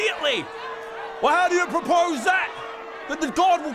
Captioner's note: angry mob